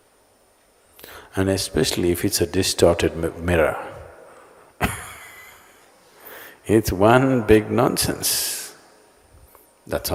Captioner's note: laughs